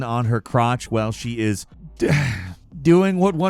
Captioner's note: sighs